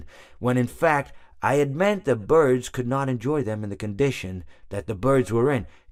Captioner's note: none